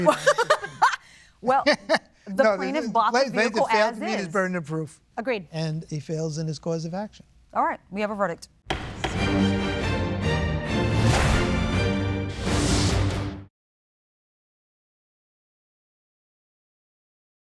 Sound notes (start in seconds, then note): 0.0 laughs; 3.3 laughs; 8.6 gavel pounding; 8.7 dramatic music